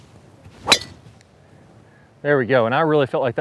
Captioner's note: air whooshes; ball clings